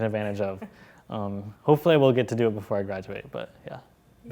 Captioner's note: laugh